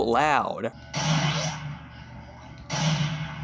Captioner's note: gunshot